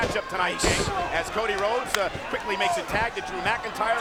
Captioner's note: body thudding